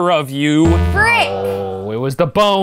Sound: buzz

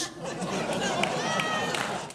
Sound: audience laughs

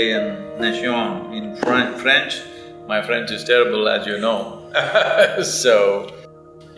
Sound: laughs

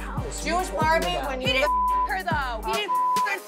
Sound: beep

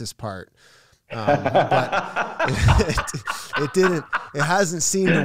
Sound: both laughing

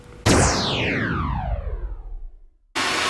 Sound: digital boom; hairdryer whirring

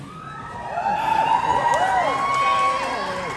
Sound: crowd cheers

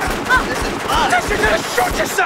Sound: gun Shot; gun Shot - Gun Shot

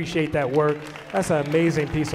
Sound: audience applauding

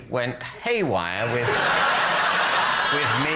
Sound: laughter

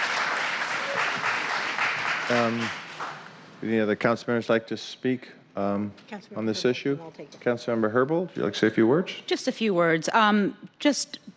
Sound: cheers and applause

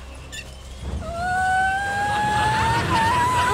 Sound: squealing

